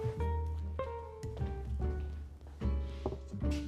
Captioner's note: footsteps; rustling